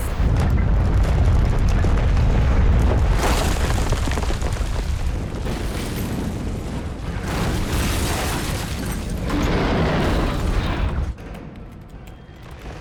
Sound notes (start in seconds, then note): 0.0 explosion